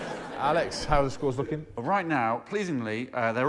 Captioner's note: laughter